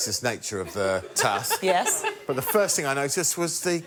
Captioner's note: laughter